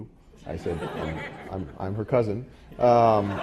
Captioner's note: laugh